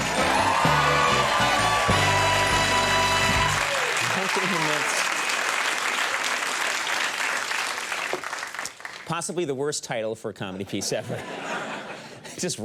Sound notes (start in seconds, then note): 0.1 crowd cheers; 4.9 crowd cheers; 10.5 crowd laughs